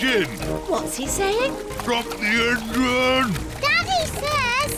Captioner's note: splutters